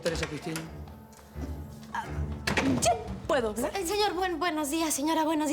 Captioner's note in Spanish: Ruido en una puerta